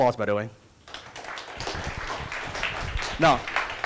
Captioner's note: audience applauds